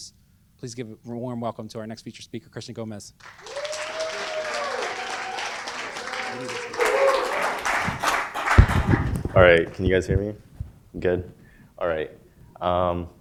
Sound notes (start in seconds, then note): 3.2 applause